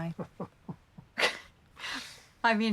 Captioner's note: both chuckle